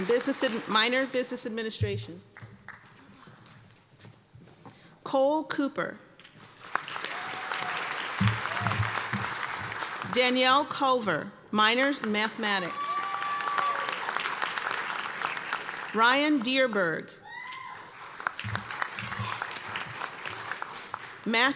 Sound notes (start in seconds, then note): 2.3 applause; 6.2 applause; 12.6 applause; 17.2 cheers and applause